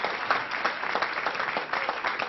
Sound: applause

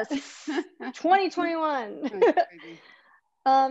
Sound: laughs

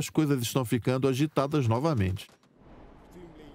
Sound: gun firing; voiceover

